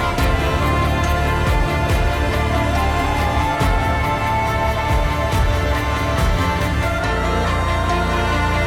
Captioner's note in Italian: Applauso